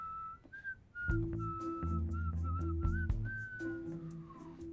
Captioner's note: whistling; whistling nonchalantly